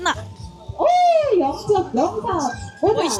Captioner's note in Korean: 세나 이벤트 소리